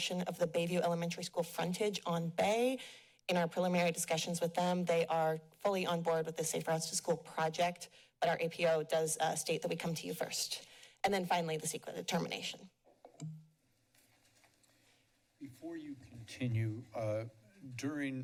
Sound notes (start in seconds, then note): none